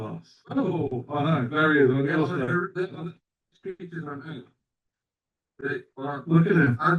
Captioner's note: audio dropping